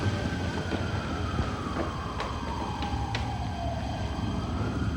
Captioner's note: sirens wailing